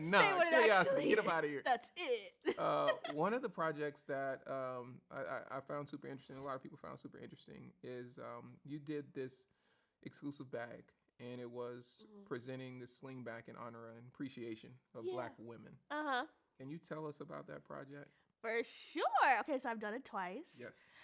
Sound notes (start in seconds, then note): 2.7 laughs